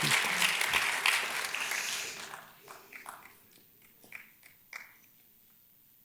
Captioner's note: audience claps and cheers; breathes deeply